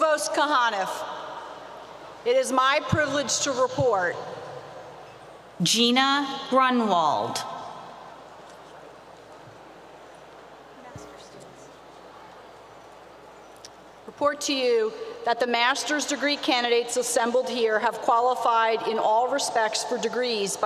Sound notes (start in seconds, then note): 5.6 spoken over P.A